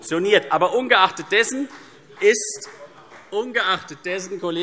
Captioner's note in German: Vereinzelter Beifall CDU